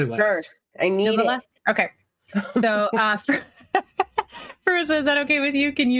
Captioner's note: cast members laughing